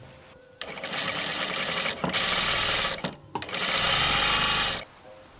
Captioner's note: sewing machine sounds